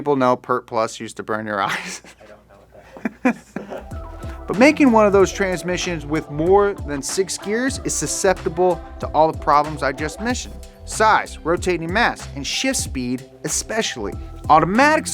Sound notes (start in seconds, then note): 2.6 laughing